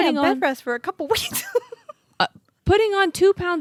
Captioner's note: laughs